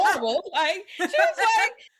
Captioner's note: laughing